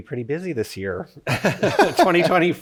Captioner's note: both laugh